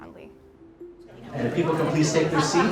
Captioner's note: audience murmur